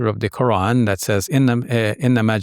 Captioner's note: speaking Arabic